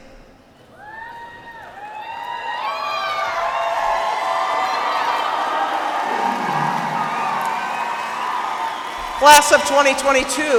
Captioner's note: cheers and applause